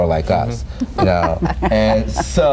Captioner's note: laughing